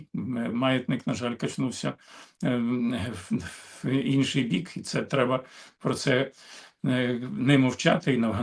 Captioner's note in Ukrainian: сопіння